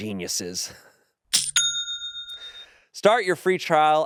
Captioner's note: bell dings